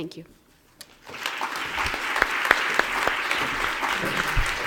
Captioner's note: applause